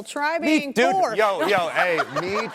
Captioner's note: laughs